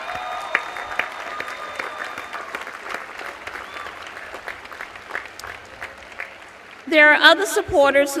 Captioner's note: cheers and applause